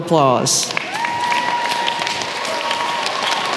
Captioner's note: applause